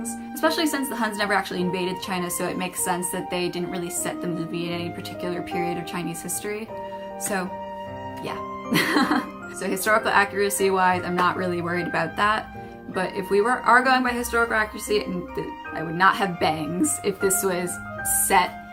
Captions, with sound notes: especially since the Huns never actually invaded China so it makes sense that they didn't really set the movie in any particular period of Chinese history so, yeah *laughs* so historical accuracy wise, I'm not really worried about that but if we were going by historical accuracy, I would not have bangs if this was set